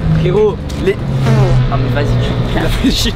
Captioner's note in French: prout